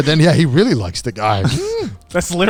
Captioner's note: dramatic squeal